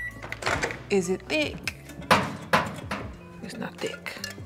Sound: microwave beeping; glass thudding

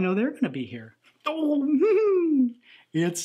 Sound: giggles

